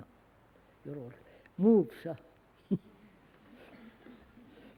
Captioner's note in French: Rires